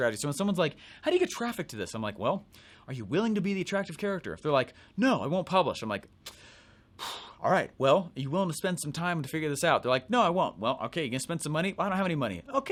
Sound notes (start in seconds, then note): 6.9 puff